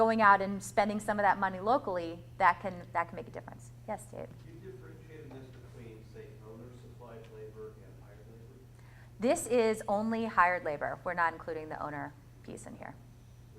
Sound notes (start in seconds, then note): 4.8 voiceover; 13.4 voiceover